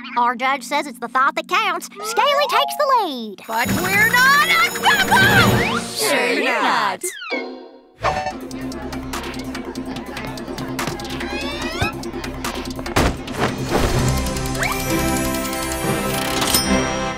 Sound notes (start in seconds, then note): 3.4 alarm ringing; 8.2 intriguing music playing; 14.0 sweeping music playing